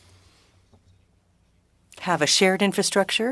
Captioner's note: speaking French